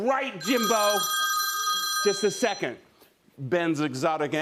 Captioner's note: cellphone rings